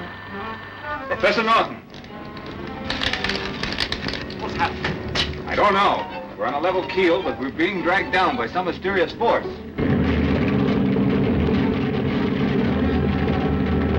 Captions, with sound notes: - Professor Norton. - What's happened? - I don't know. We're on a level keel, but we're being dragged down by some mysterious force. (engine rumbles)